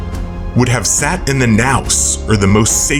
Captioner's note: non-english